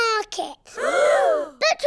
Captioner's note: all gasp